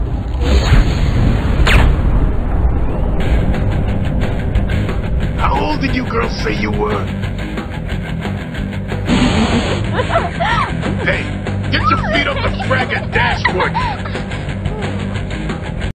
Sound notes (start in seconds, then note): 3.1 rock music; 9.8 the sisters laugh